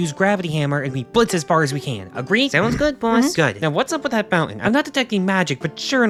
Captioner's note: sounds of agreement